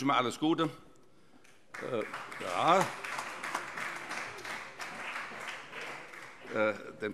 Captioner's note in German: Beifall